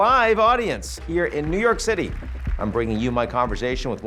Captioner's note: audience clapping